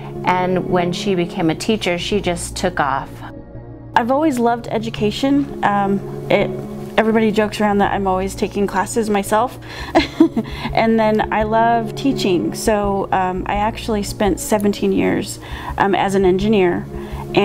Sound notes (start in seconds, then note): 9.9 laughs